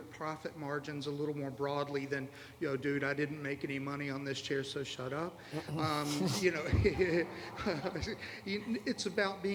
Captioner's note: laughter